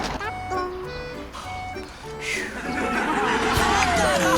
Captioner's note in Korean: ㅋㅋㅋ안도의 한숨ㅋㅋㅋ